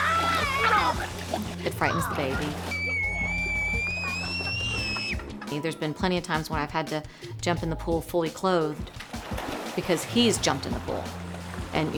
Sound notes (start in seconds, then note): 0.1 shouts; 1.8 girl screams